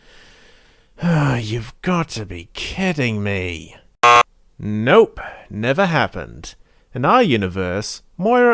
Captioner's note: sigh; buzzer sound